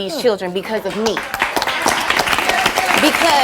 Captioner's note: audience applauding